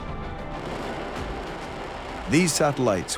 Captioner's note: rocket roaring